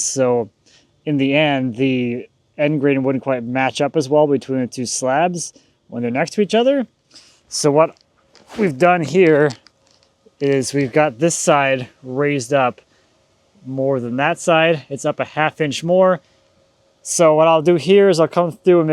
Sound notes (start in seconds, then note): none